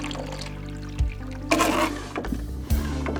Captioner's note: gas trickling; Quinn spitting; intense music